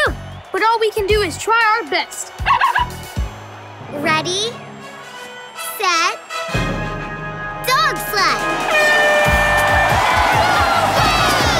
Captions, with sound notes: But all we can do is try our best. [barking] Ready... set... dog sled! [horn blowing] [cheering]